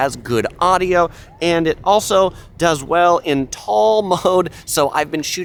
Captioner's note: giggles